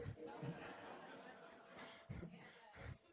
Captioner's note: laughter